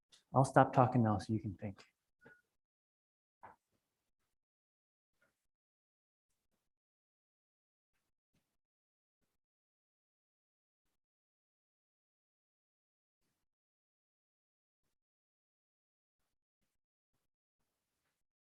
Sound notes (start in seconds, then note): 4.1 silence